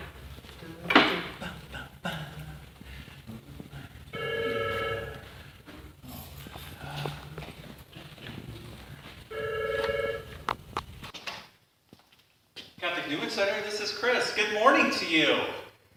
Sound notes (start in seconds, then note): 4.1 phone ringing